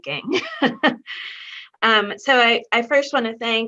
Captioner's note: chuckles